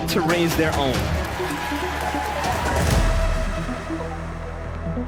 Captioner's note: applause and cheering